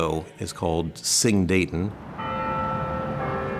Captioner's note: bells chime